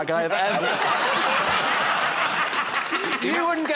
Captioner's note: laughter